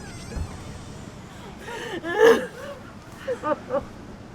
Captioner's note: crying